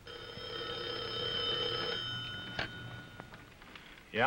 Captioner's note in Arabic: يرن الهاتف